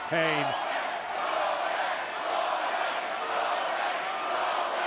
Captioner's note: crowd cheering